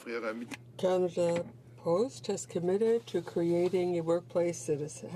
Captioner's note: speaking French